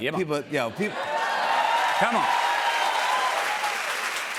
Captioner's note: cheers and applause